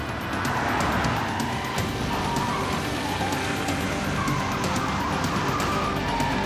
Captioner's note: soft music; tires screech